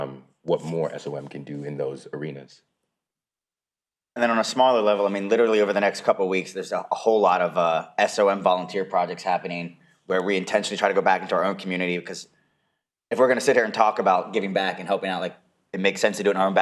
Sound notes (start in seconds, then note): none